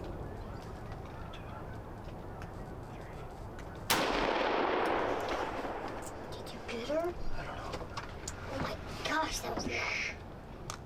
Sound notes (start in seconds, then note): 3.9 gun shot; 5.5 whispering